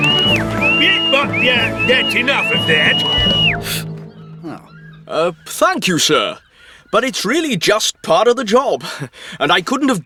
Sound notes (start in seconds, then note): 0.0 blustering